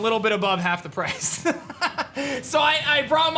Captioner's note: laughs